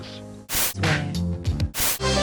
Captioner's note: static; hip hop beat